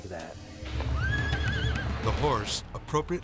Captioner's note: horse neighing